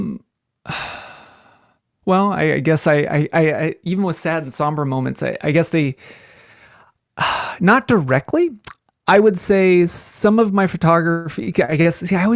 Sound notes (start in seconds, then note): 0.6 sighs